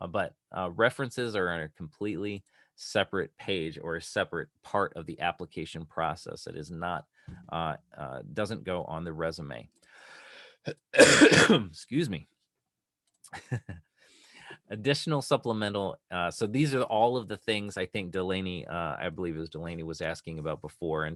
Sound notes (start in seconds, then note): 10.6 coughing